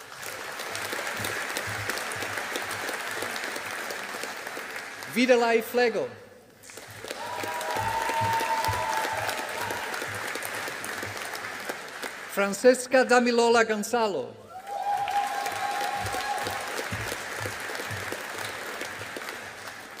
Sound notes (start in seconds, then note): 0.0 audience applauding; 14.5 audience applauding